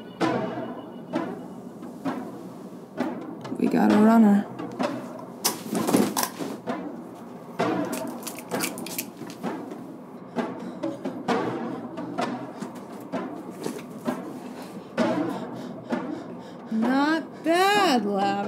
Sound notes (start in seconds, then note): 5.7 dramatic music continues; 7.8 gun rattles; 13.1 dramatic music continues